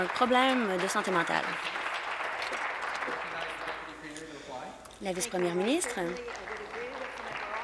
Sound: applause

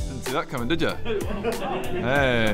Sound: stunned giggles

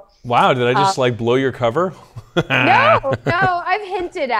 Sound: laughs

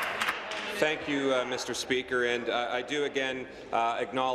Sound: applause

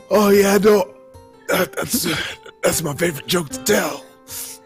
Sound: laughing

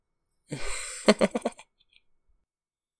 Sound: chuckles

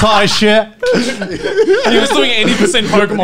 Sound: laughing loudly

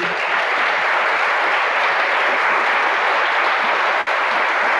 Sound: audience clapping

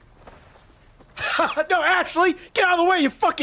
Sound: laughs

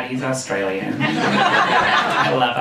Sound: audience laughing

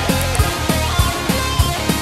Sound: mouse clicking

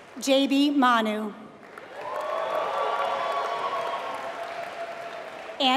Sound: applause

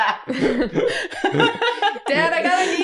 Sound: laughter

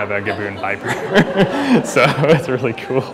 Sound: laughter

